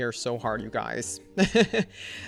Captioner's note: laughs